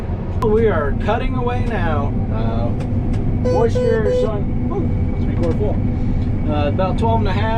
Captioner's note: beeping